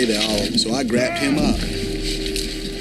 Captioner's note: Tex groaning